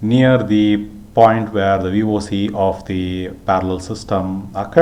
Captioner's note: power dissipating